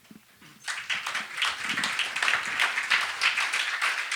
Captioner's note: applause